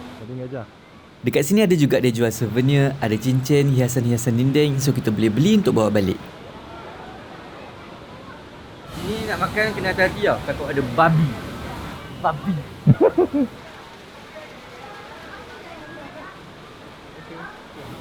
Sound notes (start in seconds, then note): 10.7 laugh